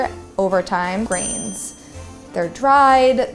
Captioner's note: ding